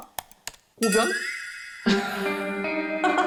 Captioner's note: very realistic sound effect